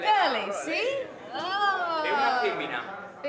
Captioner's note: speaks Italian